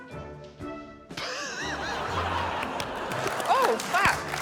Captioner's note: laughs wheezily